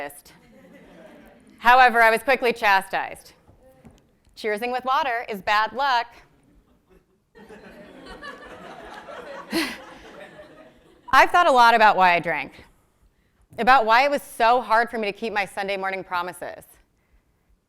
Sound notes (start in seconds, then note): 0.4 laugh; 6.4 laugh